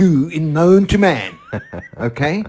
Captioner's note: laugh